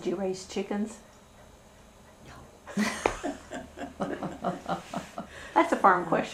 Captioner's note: laughter